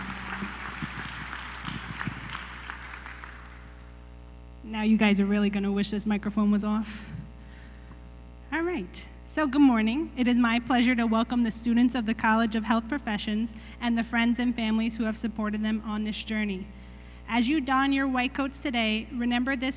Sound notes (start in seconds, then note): 0.0 applause